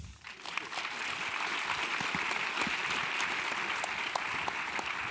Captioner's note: audience clapping